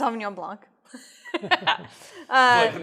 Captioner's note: laughs